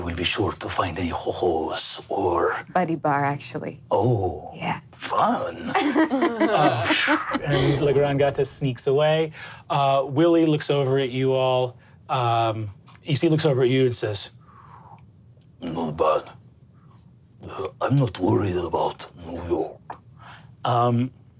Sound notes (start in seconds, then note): 5.6 laughs; 7.3 mimics air whooshing